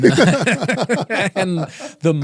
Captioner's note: both laughing